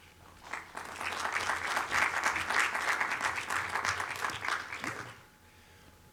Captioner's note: audience applauding